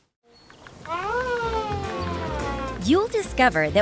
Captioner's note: welcoming wail; soft strings music